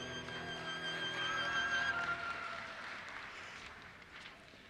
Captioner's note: audience cheers and applauses